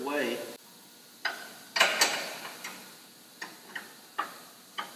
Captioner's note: bolts clunking